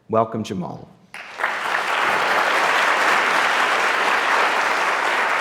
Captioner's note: audience applauding